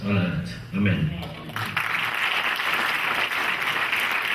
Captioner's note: clapping